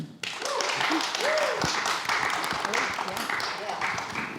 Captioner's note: crowd applauds